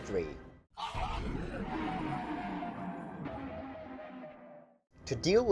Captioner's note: descending tone